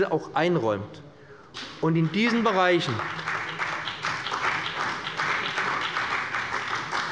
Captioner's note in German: Beifall bei dem BÜNDNIS 90/DIE GRÜNEN und der CDU